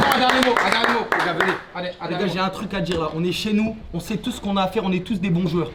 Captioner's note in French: applaudissements